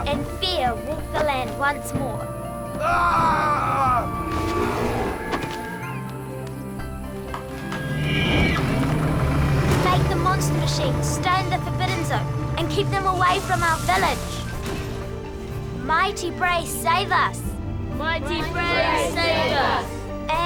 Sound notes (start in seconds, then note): 2.7 Zoot yelling; 3.0 monster growling